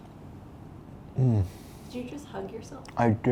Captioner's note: moans